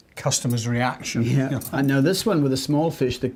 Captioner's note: both chuckling